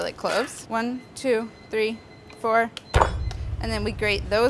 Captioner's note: banging